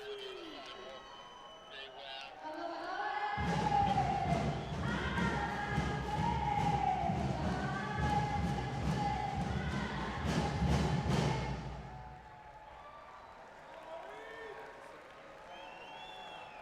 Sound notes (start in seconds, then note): 12.8 audience cheering